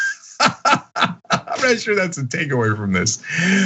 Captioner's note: laugh